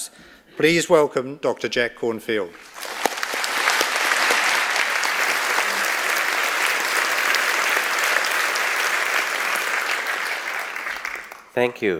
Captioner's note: audience clapping